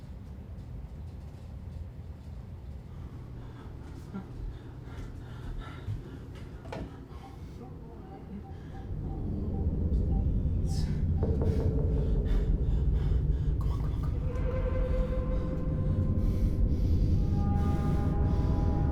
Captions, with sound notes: (panting) (phone dialing beeping) - Come on, come on, come on.